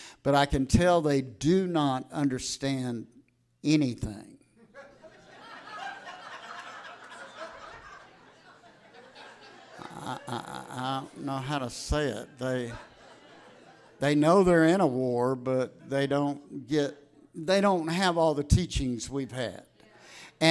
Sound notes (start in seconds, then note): 4.6 audience laughs